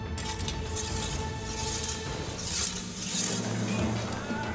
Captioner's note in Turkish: Kılıç bileme sesi